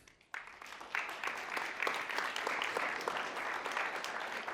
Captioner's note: all clapping